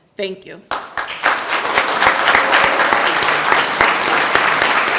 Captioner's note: group applauding